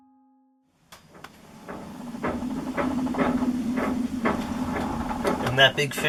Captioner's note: halyard slapping against the mast in the wind